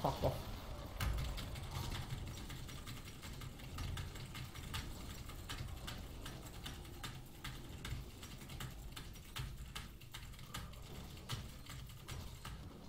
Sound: clicking random keys on the keyboard

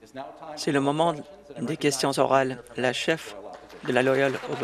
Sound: some Applause

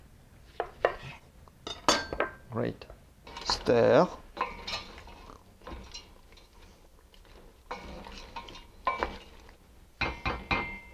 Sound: stirring sounds

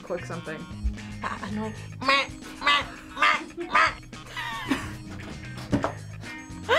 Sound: laughs

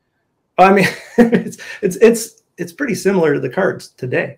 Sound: chuckles

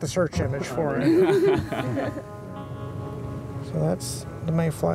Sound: students laughing amusingly

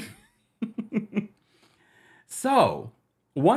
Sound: laughing

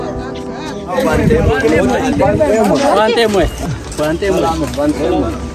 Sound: speeking in Sidama language

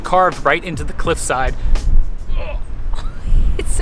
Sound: strong wind sound

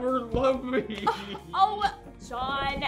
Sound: scoffs

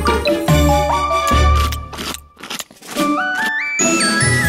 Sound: Om Nom's chewing

